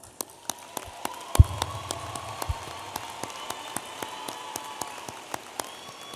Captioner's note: audience applauding and cheering